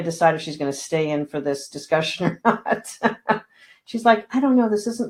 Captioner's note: laughing